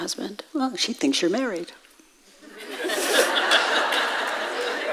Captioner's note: audience laughs